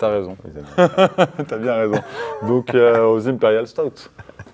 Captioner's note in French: rires